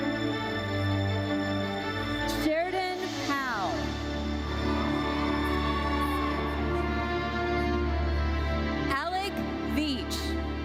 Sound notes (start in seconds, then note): 4.4 audience cheers